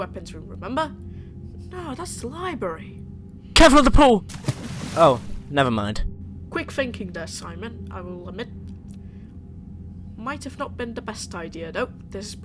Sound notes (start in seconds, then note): 4.2 splash